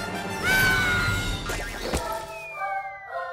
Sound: Cozmo screams; bright music

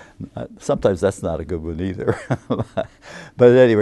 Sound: laughs

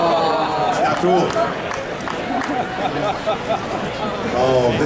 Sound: audience chattering

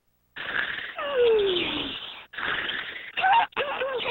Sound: snoring

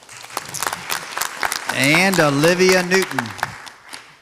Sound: audience applauds

